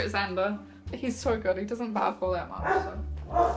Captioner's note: even more barking